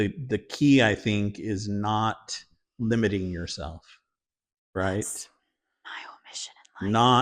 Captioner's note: whispers